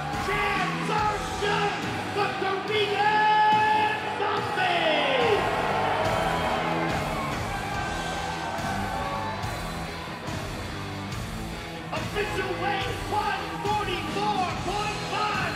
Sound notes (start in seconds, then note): 5.2 audience cheering; 5.2 hard rock music